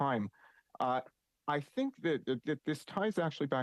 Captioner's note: speaking French